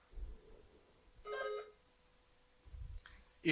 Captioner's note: buzzer buzzing